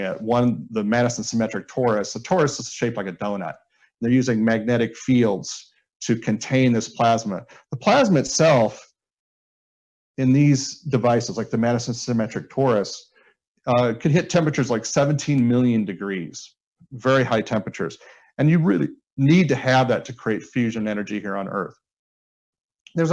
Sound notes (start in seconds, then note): none